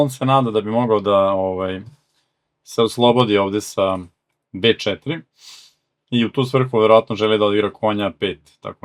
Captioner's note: snort